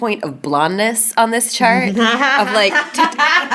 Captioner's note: ladies laughing